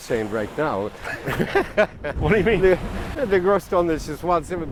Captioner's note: both laugh